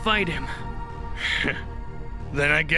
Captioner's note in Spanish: Scoffs